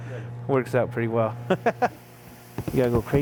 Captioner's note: laughs